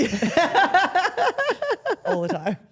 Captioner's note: Steph laughs